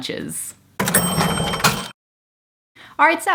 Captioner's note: cash register dinging